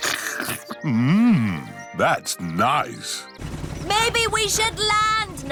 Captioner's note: slurps